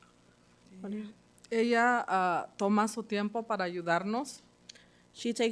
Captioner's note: speaking Spanish